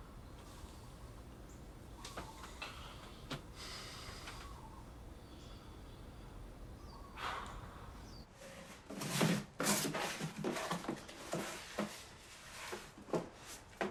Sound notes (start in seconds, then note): 0.0 birds chirp; 0.1 dog barks in distance; 7.0 sighs; 8.8 boxes shuffle